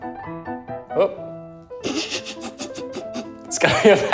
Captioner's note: laughs